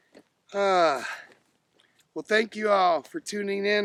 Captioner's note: sighing